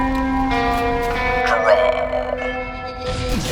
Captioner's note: in a Western accent